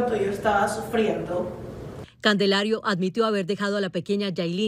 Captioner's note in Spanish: habla en ingés